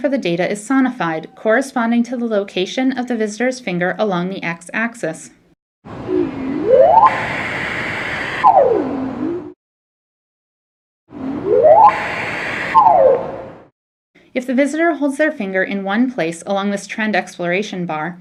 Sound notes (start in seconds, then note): 5.9 rising tone; 5.9 static; 11.1 rising tone; 11.7 static